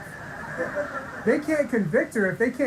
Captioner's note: audience laughing